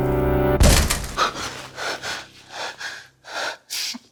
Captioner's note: loud thump; gasping